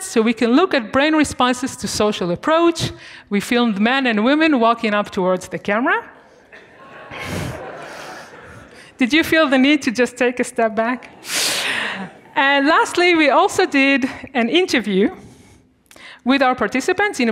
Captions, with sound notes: so we can look at brain responses to social approach. We filmed men and women walking up towards the camera. (students laughing) Did you feel the need to just take a step back? And lastly we also did an interview with our participants,